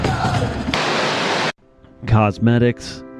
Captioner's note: screams